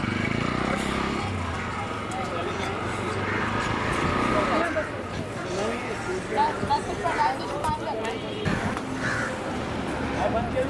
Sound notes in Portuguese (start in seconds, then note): 4.0 som de conversas